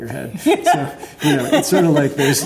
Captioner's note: laughs